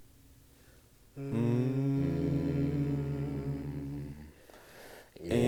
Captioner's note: voices humming